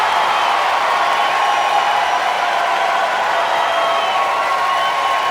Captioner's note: applause and cheering